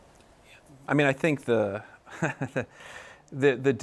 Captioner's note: laughs